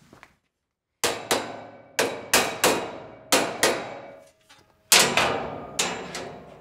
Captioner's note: metal clanging; hammer thudding